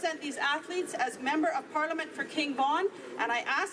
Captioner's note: speaking French